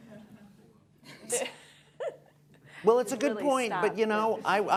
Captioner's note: laughter